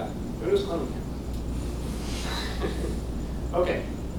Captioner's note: laughs